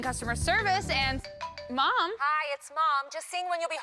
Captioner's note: phone ringing